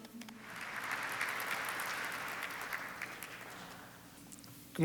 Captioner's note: audience applauds